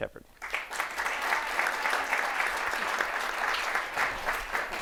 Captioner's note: audience applauding